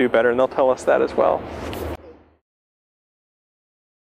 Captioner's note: pause